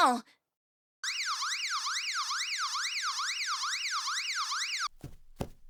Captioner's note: security alarm ringing